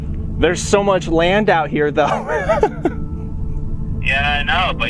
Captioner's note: laughing